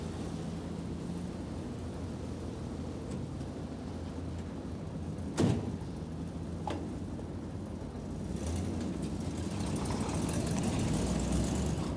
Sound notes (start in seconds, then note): 5.4 van door thudding; 9.3 van engines revving